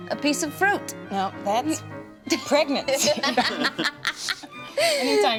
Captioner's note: laughs